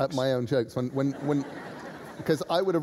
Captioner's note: laughter